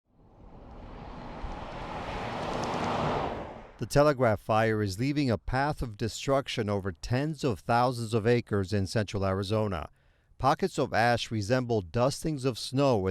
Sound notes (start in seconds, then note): 0.2 moving vehicle engine roaring